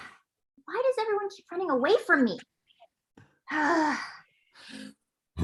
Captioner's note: sighs